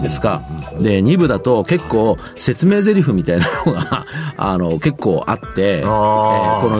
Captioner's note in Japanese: 笑い